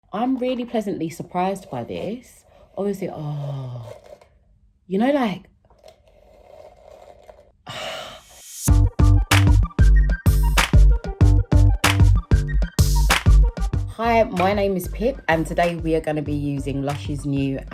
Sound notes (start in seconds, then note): 3.7 sighs; 5.7 brushing; 7.6 sighs in delight; 8.8 upbeat music